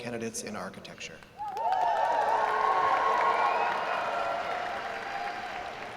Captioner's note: applause